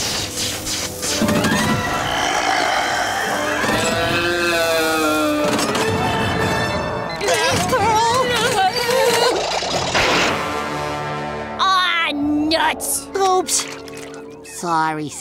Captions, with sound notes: [grunting] [whimpering] Ah, nuts! Oops. Sorry, Sandy.